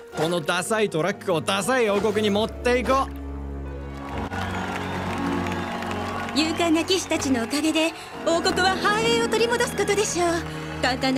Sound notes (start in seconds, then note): 3.7 cheers and applause